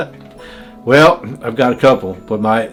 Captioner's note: laughing